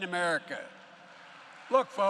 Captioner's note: applause